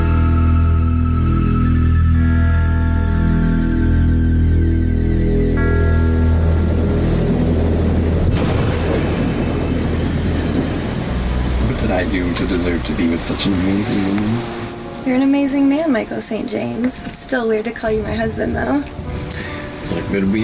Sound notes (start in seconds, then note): 7.4 rain falling; 7.4 thunder rumbling